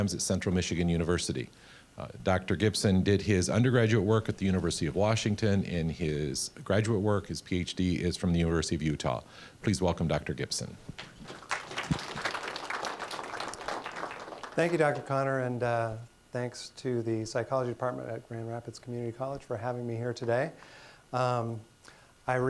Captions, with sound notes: at Central Michigan University. Dr. Gibson did his undergraduate work at the University of Washington, and his graduate work, his PhD is from the University of Utah. Please welcome Dr. Gibson. (applause) >> Thank you, Dr. Connor and thanks to the Psychology department at Grand Rapids Community College for having me here today.